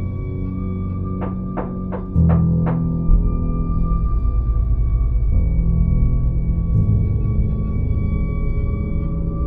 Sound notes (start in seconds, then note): 1.2 louder knocking on door